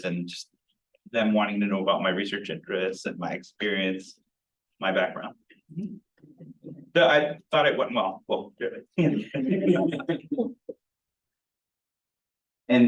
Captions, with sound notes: and just them wanting to know about my research interests and my experience, my background. But I thought it went well. (people laughing)